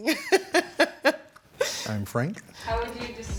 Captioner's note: chuckles